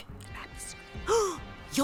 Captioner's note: le gasp